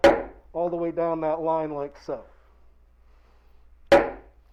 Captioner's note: hammer bangs